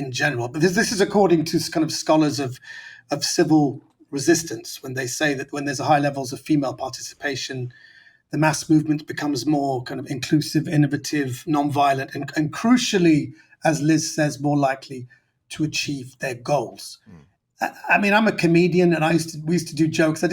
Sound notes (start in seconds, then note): none